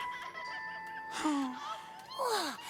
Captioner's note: crying